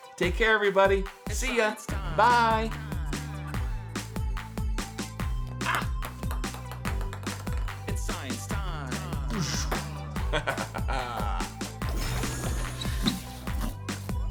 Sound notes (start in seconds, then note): 3.4 upbeat electronic music; 5.7 ping pong ball clatters; 9.2 laughs